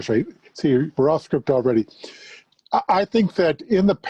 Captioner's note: faintly speaking